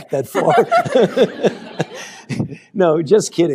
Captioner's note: laughter